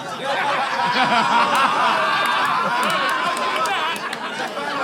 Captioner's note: people in room laughing